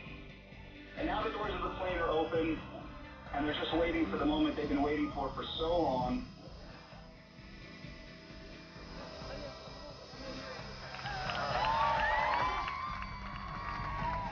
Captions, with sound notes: And the doors of the plane are open and there just waiting for the moment they've been waiting for for so long. (cheers and applause)